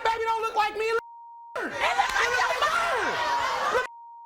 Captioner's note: beeping